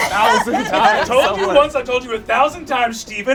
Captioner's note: all laugh